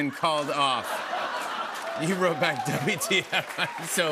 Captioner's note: laughter